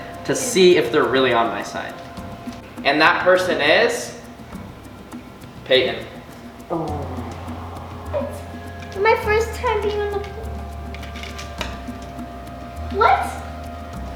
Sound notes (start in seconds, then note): 6.6 low groan